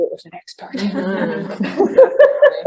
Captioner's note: laughter